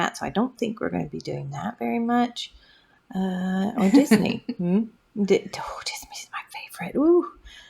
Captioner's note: laugh